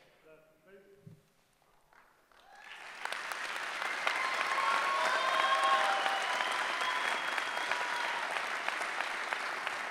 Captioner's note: applause